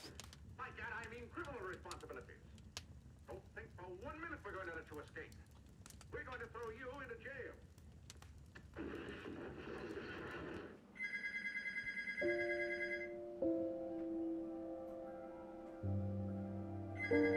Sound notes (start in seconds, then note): 8.7 gunfire; 10.9 phone ringing; 12.2 calm, ruminative music; 17.0 phone ringing